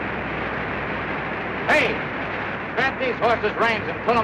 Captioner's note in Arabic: none